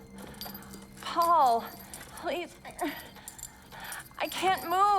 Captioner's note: moans